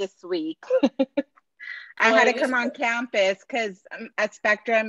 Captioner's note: laughter